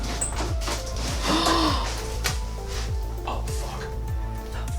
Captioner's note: Quinn gasping